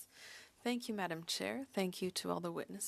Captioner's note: speaking French